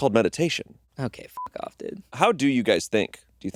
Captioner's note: beeping